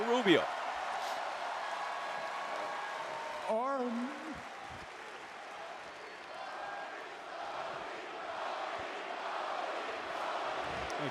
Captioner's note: applause